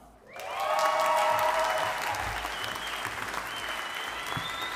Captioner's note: audience applauding